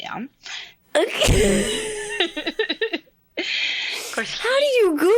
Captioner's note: both laughing